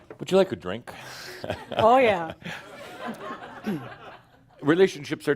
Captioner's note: more chuckles